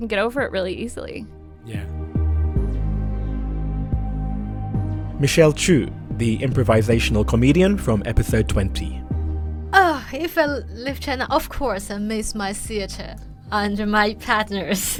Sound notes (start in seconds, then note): 3.5 voiceover